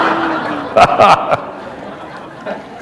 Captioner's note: laughter